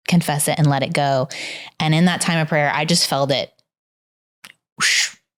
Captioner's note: blows air